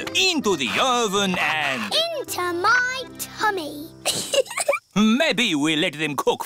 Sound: giggles

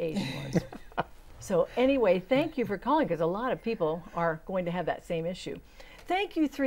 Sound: laughing

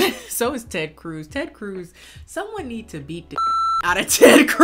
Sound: beep

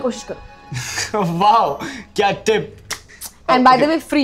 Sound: laughs

